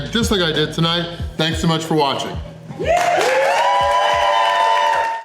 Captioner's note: crowd clapping and cheering